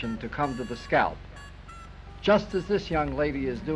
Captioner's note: none